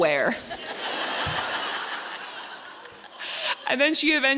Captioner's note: audience laughing